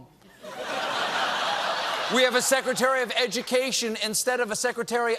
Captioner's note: laughter